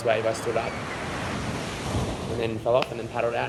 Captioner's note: waves rustling